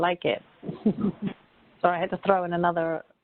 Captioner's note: laughing